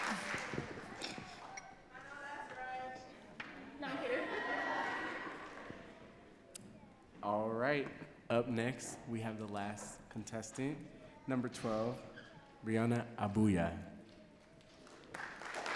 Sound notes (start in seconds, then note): 3.4 audience talking and laughing